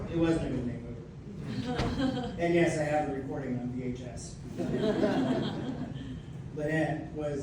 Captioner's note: laughter; laughter